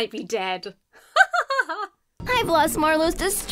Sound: laughs

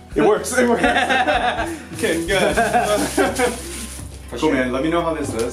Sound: patient and chiropractor laugh

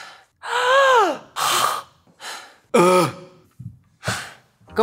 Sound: heavy breathing

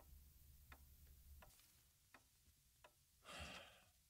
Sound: clock ticking

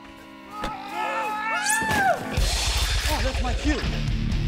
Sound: screaming

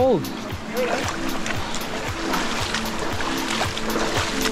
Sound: water splashes

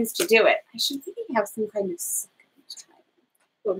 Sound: speaks quietly

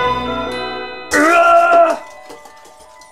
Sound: groaning

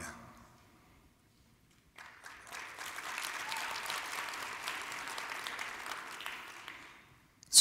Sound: applause

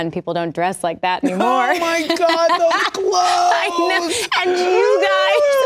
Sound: laughs; gasps

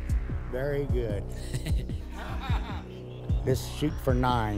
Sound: laughter

